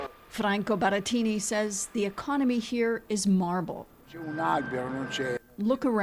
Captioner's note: speaking alternate language